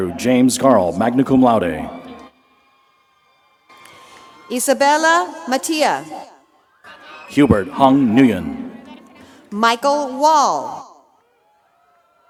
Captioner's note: applause